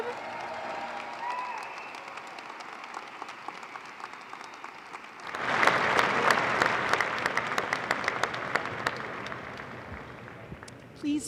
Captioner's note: applause